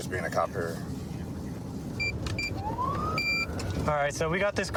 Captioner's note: buttons beeping